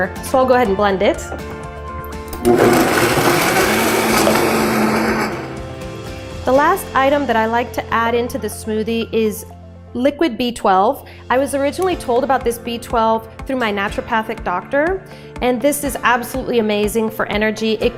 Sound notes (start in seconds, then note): 2.3 blender rumbles